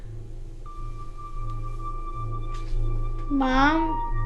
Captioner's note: sound of portal pulsing